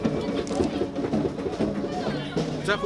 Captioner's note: camera shutter clicking; speaking foreign language